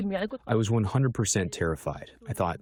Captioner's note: through translator